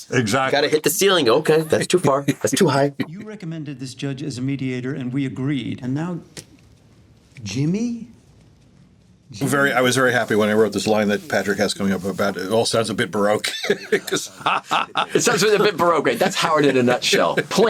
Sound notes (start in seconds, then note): 13.4 laughs